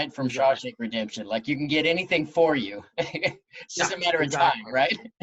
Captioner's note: chuckles